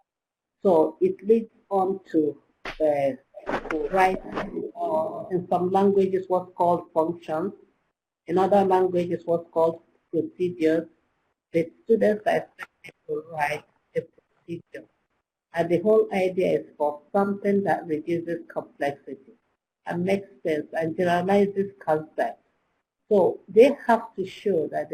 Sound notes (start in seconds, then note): 12.4 electronic interference